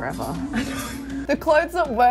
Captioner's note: laughing